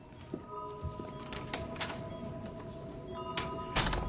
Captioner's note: door opens, closes